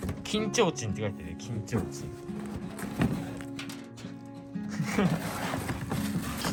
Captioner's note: laughs